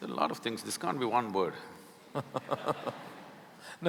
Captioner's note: laughter